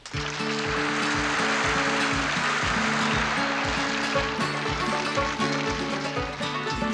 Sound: audience cheering; gentle music

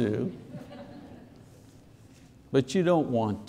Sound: congregation laughs

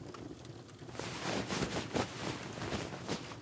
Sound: fabric rustles

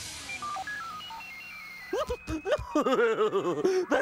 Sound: laughing

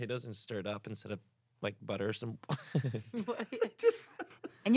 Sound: laughs

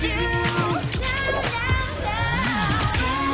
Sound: vocalizing

